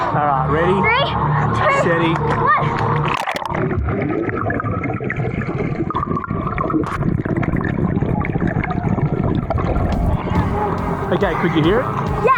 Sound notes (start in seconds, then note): 4.5 underwater ambience